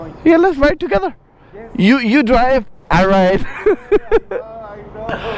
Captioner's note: laughs